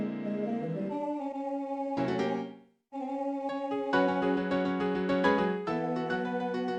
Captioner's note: timidly - a little sad